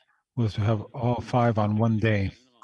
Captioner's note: speaking French